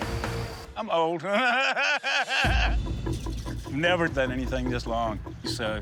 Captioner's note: laughs